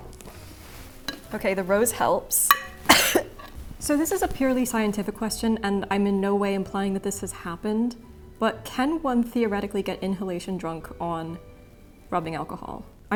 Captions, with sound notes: Ok, the rose helps. (coughing) So this is a purely scientific question, and I'm in no way implying that this has happened, but can one theoretically get inhalation drunk on rubbing alcohol?